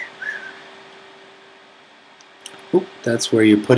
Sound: whistling

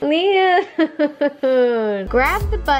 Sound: laughs

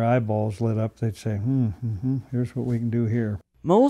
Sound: humming

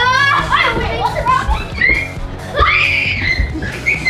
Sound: both screaming

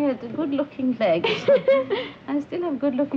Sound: Anne and Petronella laughing

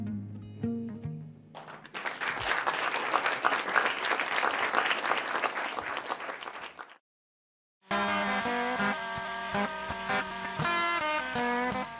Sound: applause

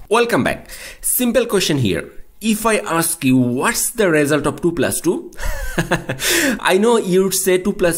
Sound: laughing

